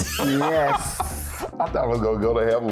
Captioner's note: laughing